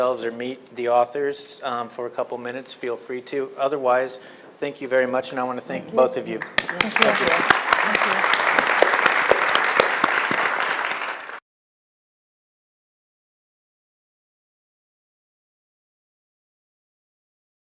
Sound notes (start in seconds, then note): 6.3 applause